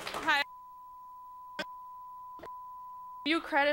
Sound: beep

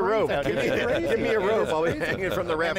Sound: laughter

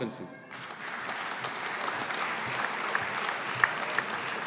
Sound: audience applauding

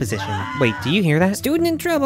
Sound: distant screaming

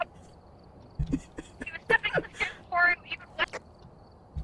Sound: continued giggles

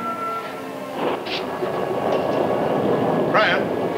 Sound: thunder rumbling

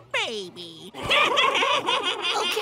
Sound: laughing

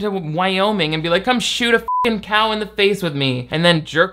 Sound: beep

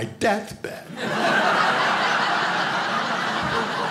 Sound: audience laughing

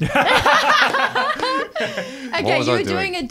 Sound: laughing

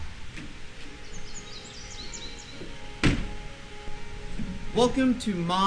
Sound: birds chirping

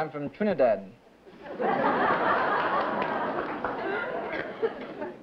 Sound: laughter

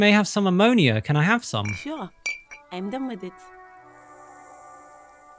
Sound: bottle clink SFX

